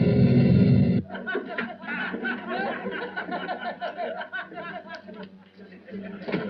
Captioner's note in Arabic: ضحك